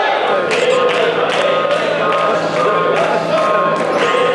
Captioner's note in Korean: Урам зориг өгөх алга ташилт